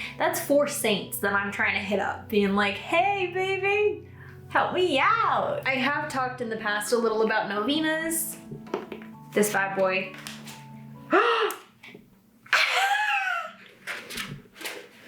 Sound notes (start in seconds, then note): 11.1 gasps; 12.5 laughs